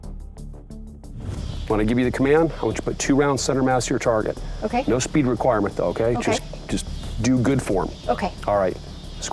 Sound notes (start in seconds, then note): 1.0 whoosh